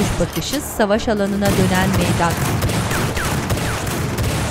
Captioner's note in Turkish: Silah sesleri